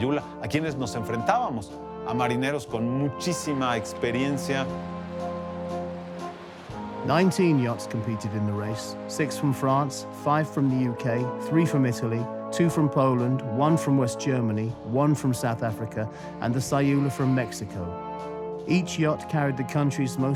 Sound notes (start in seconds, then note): 3.1 ominous music continues; 5.2 in English